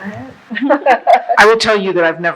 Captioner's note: laughing